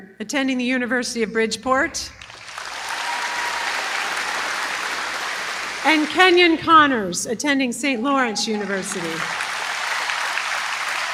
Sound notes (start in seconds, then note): 2.2 applause